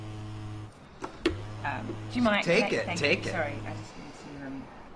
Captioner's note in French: le téléphone vibre